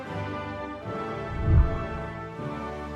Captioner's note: whooshing sound